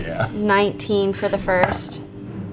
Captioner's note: laughs